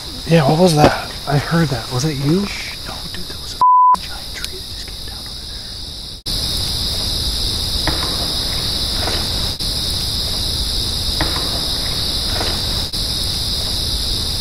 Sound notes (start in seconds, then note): 3.6 beep; 7.8 indistinct thump